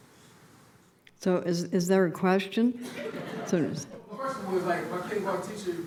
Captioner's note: laughter